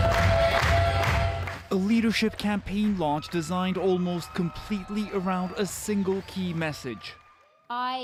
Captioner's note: applause